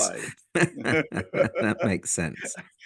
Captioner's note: laugh